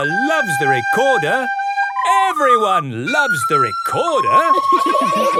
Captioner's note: laughter